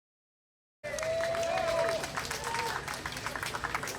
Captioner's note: cheers and applause from the crowd